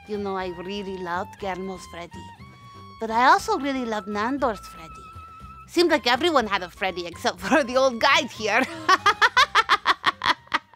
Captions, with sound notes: You know, I really loved Guillermo's Freddie, but I also really loved Nandor's Freddie. Seemed like everyone had a Freddie except for the old Guide here. [PAINED LAUGH]